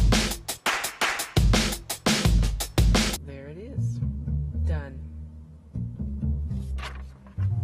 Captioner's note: energetic instrumental hip-hop music begins; energetic instrumental hip-hop music ends; music changes to bass guitar plucking; paper rustles; bass guitar plucking fades out